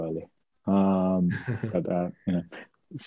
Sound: laughs

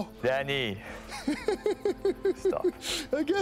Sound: laughs

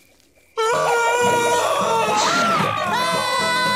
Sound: screaming

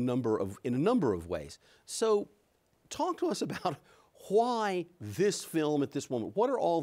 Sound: chuckles

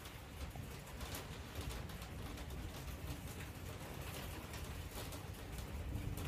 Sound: hail gets heavier as the rain continues

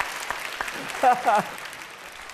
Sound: laugh and applause; laughs

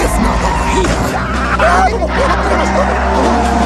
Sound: screaming and Running

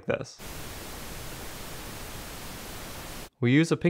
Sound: hissing sound

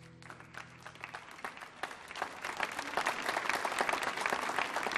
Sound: applause

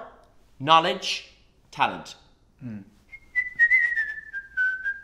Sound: whistles

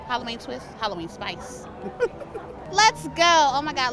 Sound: laughs

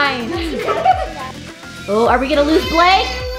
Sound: laughing

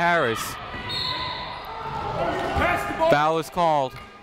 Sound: whistle tweeting

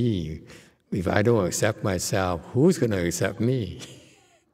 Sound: laughs

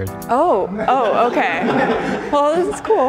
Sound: contestants laugh

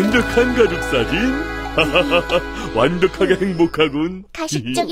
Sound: laughter

